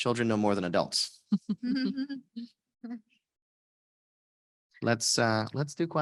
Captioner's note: panelists laughing